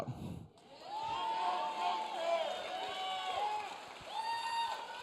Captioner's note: audience cheering